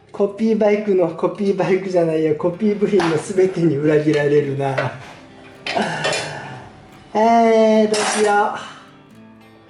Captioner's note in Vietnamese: cười